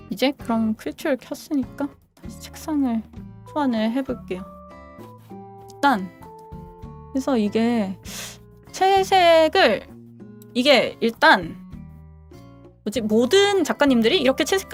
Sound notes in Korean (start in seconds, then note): 8.0 콧방귀